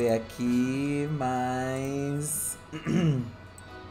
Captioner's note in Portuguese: pigarreia